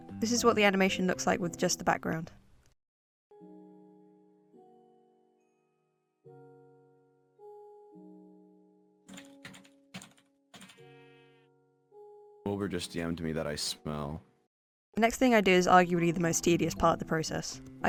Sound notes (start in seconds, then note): 2.8 music; 9.1 typing; 10.7 sheep Bleats